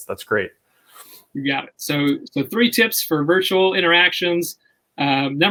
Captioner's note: none